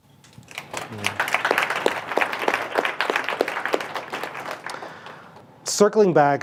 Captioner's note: panel and audience applauds